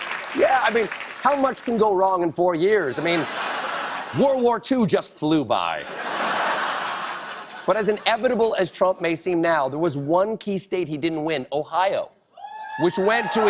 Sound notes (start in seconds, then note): 5.8 laughter